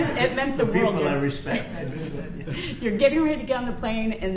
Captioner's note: laughter